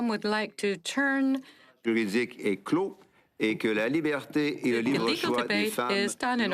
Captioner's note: speaking French